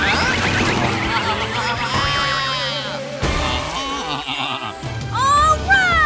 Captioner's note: baaing